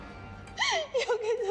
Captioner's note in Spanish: Sollozos